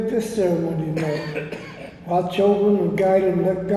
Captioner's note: attendee coughs